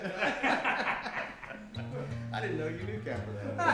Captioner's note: group laughs